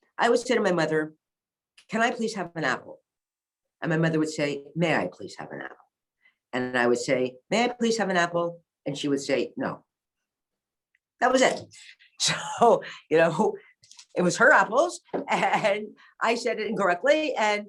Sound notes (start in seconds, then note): 14.9 chuckles